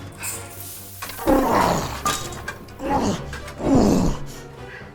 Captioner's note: sword swishes; spray hisses; the Knight groans; suspenseful music